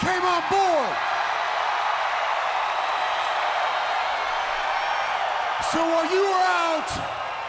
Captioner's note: crowd cheering